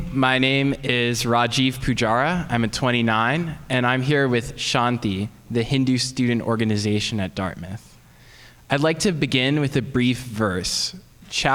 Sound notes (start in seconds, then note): none